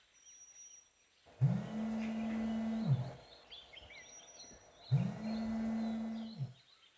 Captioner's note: phone ringing